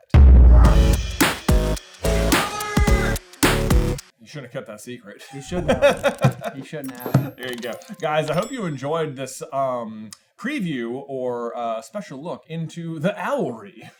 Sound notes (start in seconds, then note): 0.4 outro Theme Music; 5.2 laughs